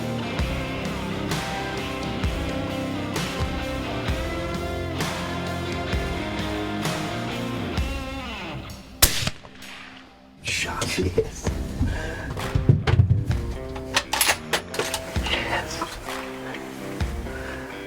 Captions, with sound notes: (music intensifies) (upbeat country music) (country music) (gun shot fires) - Shot. Yes. Yes.